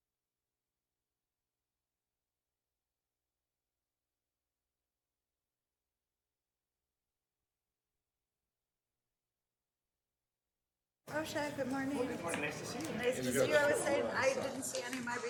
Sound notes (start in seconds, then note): 11.1 group chattering